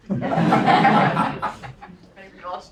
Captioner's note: laugh